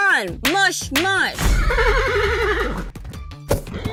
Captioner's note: neeeigh